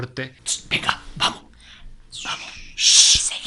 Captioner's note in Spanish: susurrando